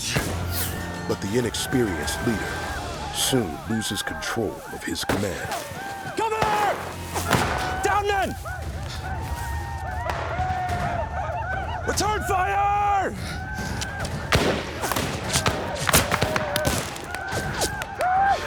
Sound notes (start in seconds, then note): 9.2 whooping; 13.2 gunfire